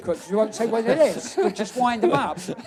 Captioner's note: laughs